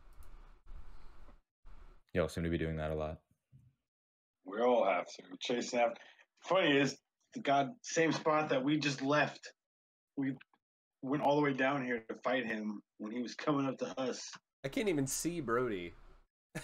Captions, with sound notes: You all seem to be doing that a lot. We all have to, chasing after... ...funny, it's the same spot that we just left. We went all the way down here to fight him when he was coming up to us. I can't even see Brodie. [chuckling]